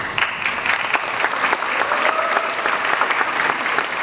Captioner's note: audience applauds